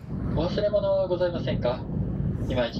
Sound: train annoucements in japanese

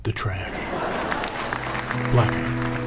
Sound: laughter, applause

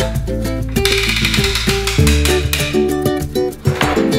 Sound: gear cranking

